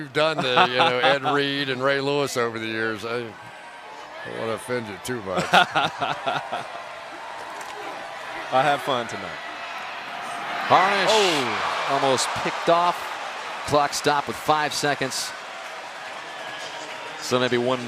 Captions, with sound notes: I've seen what you've done, you know, Ed Reed and Ray Lewis over the years. I don't want to offend you too, but. [laughs] I have fun tonight. Harnish-- Oh. Almost picked off. Clock stopped with 5 seconds.